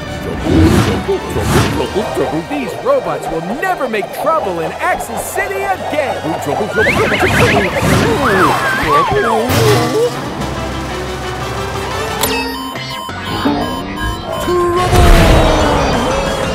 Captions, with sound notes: Trouble. Trouble. Trouble. Trouble. These robots will never make trouble in Axel City again. Trouble. Trouble. Trouble. Trouble. Trouble. [beeping] Trouble!